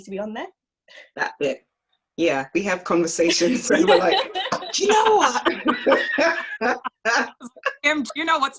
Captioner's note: laughs